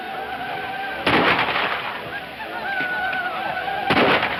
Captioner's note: more gunshots